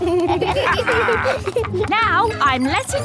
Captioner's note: kids and captain dog laughing